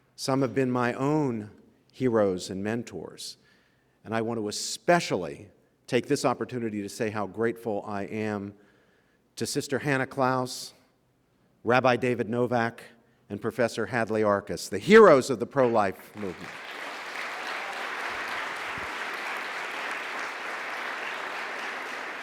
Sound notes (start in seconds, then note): 16.0 audience applause